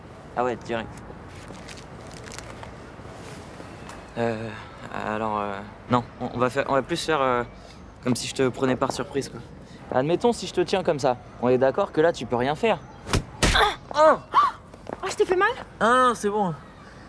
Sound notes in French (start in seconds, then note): 13.1 bruit d'impact